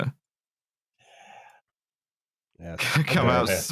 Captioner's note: whispering